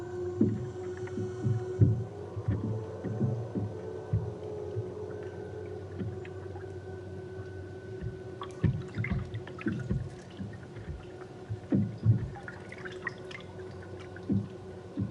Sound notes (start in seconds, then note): 7.5 tense music; 8.8 water trickling